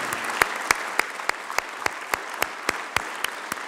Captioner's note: applause